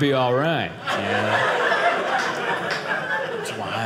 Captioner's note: audience laughing